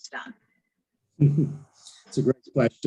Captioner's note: laughs